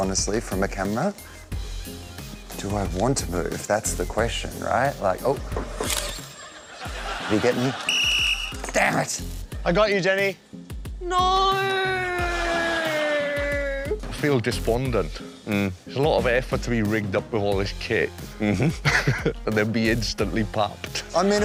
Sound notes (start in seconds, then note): 7.8 whistle blows